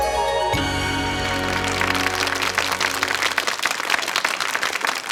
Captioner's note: crowd applauds